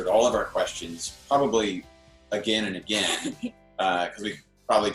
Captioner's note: laughs